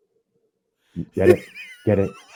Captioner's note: laughter